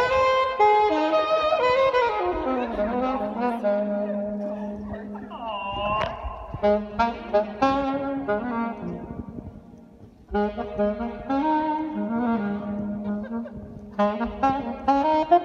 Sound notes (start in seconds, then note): 5.5 group chats